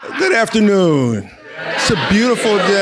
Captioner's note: crowd